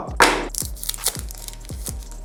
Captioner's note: foil ripping